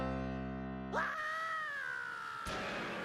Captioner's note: screaming